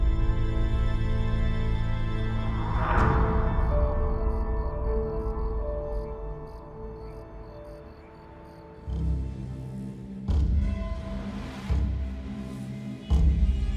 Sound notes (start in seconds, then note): 4.4 crickets chirping